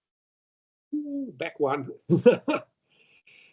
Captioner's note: he laughs